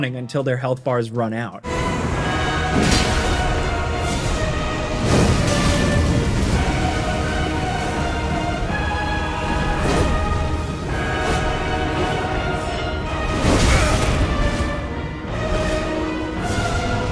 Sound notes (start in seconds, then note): 1.7 dramatic music; 2.6 attack clanking; 5.1 spell whooshing; 9.9 attacks whooshing; 13.8 character grunting